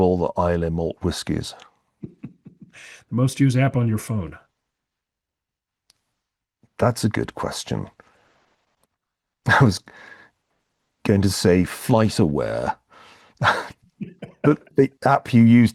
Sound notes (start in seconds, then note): 9.5 laugh